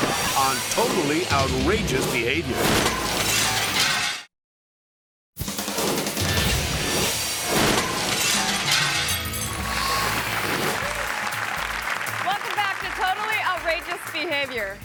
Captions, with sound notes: on "Totally Outrageous Behavior." (logo cracking and shattering) (upbeat music) (audience applauding) - Welcome back to "Totally Outrageous Behavior."